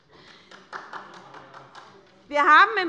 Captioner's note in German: Beifall